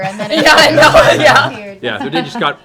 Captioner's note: laughter